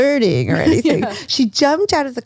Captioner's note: laughs